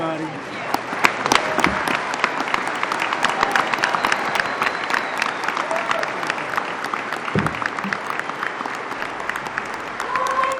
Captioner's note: applause